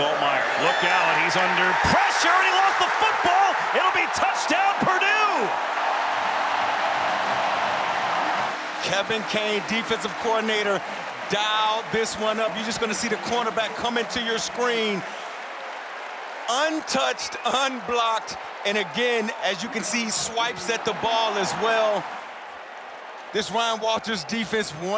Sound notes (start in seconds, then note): 10.6 cheering